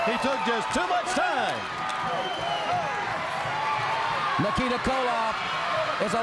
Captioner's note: crowd cheering